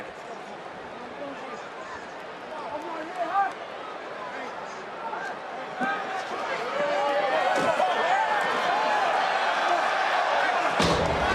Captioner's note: crowd cheers